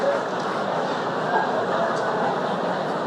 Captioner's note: laughter